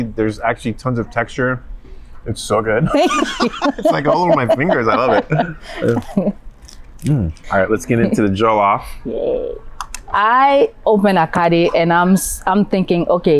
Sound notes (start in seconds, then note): 2.8 both laugh